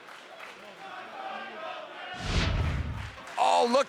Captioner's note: crowd chanting